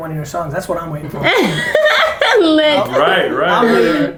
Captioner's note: chuckles